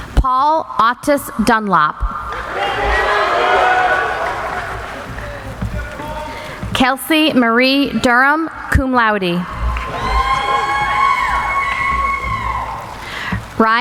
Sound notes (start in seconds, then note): 2.2 applauding; 10.6 cheering